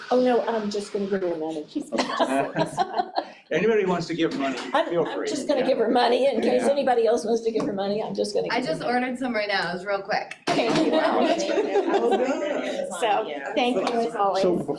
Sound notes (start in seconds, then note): 1.9 all chuckling; 10.5 all chuckling; 11.1 all chattering